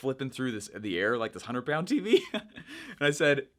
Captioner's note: laughing